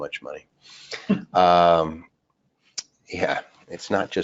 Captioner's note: person chuckles